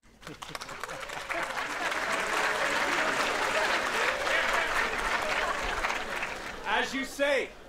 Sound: applause

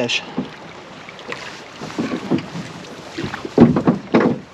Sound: clattering

